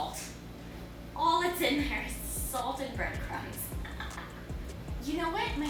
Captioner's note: laughs